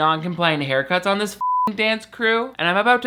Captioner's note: beep